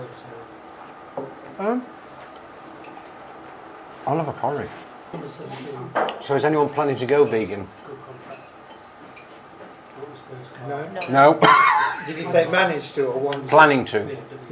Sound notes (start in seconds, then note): 11.4 coughs